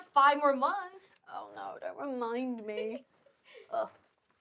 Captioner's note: Sofia laughing